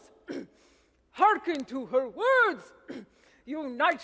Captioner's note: Hapuseneb clears throat; clears throat